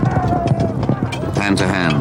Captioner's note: clanking